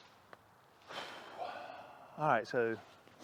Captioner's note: sighs